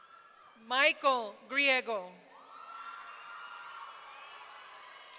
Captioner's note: audience cheering